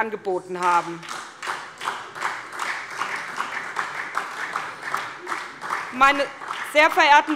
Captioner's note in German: Beifall SPD